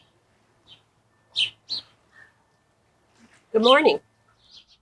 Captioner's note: birds chirping